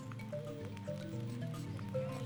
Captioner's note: indistinct chatter